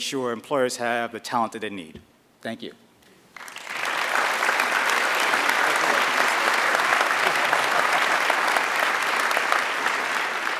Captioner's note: applause